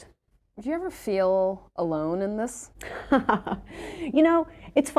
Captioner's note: laughs